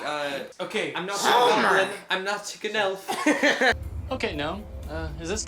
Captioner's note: imitating Marge Simpson